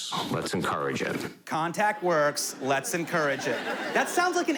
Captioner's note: mocking